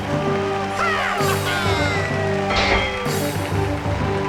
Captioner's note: 观众欢呼; 戏剧音乐